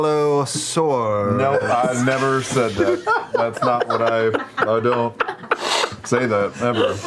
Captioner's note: sniffs